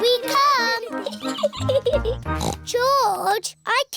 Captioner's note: giggles; snorts